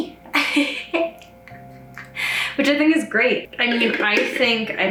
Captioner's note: laughs